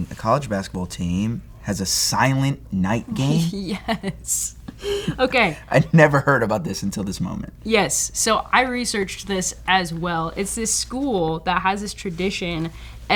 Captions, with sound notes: A college basketball team has a silent night game. - Yes. (laughs) Okay. - I'd never heard about this until this moment. - Yes. So I researched this as well. It's this school that has this tradition